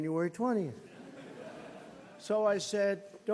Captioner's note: laughter